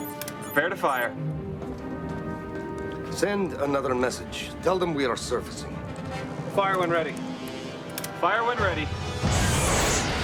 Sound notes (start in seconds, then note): 1.2 bell